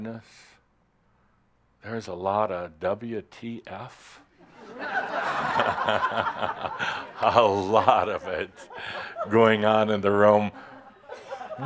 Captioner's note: laughter